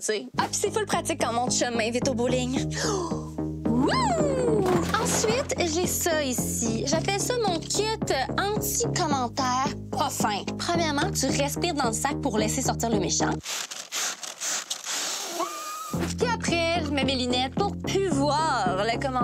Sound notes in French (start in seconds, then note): 4.6 fracas de quilles; 13.4 respirations rapides